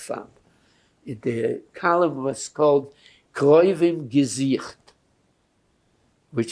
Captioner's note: yiddish